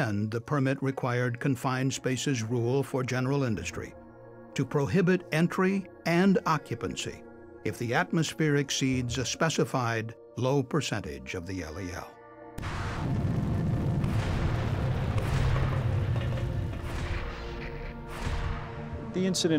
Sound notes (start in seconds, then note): 12.6 sound of explosion